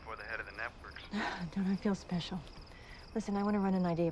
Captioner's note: scoffs